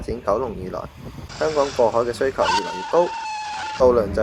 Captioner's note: braking sound